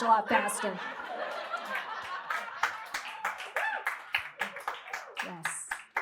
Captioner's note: laughter, whoops, and cheers from audience